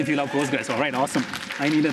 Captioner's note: cheers, applause